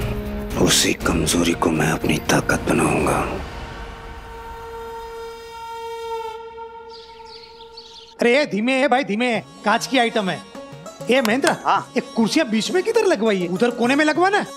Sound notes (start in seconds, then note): 6.4 birds chirping